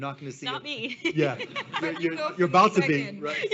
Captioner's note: laughs